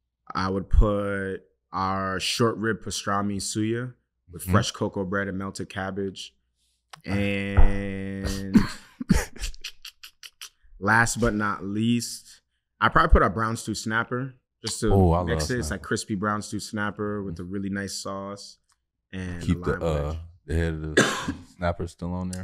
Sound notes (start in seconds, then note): 8.8 chuckles